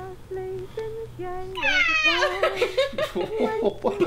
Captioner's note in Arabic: يضحك